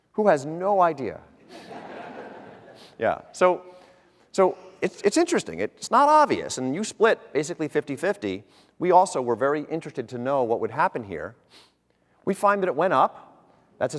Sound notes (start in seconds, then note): 1.4 audience laughter